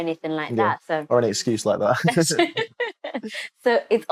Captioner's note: laughter